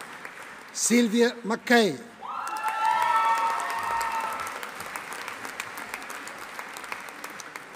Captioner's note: audience applauding